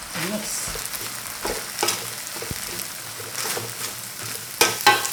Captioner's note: food sizzling